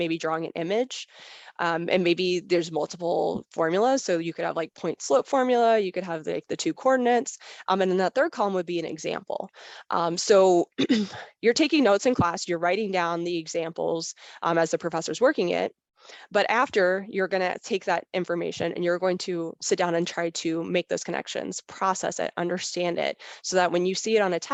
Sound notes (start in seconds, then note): 10.8 clears throat